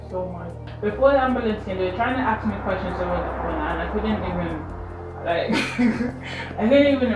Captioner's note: laughs